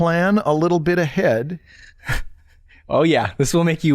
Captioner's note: chuckles